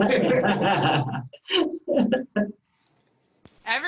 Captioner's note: laughing